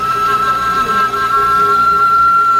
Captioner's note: toilet still a-wailin'